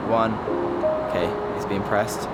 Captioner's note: bell chimes